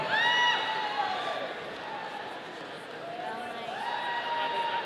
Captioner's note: audience cheering